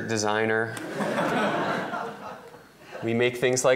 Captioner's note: laughter